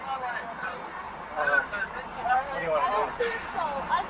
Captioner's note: radio chatter